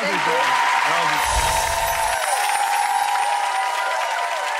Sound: bells chime; audience cheers

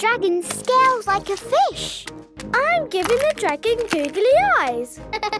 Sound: laughing

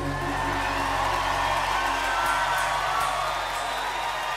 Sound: crowd cheering

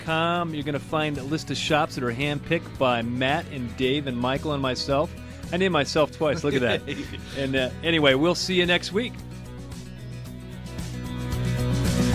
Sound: laughs

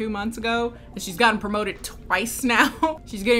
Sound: laughs

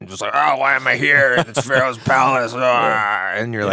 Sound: growling

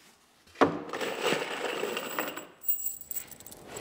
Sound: metal clinking

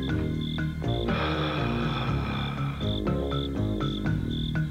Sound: sighs

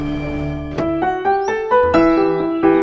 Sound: car trunk door opens

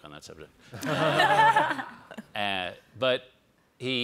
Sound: all laugh

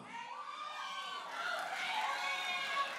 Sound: audience applauding and cheering

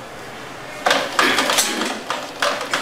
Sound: clearing throat

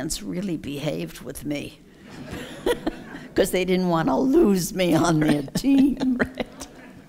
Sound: laughs

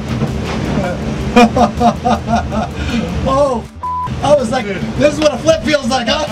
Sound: laughs

